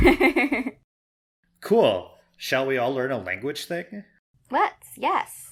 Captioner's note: laughs